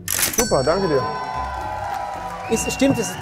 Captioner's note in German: Jubel